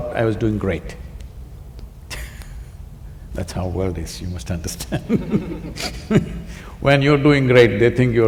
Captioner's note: laughter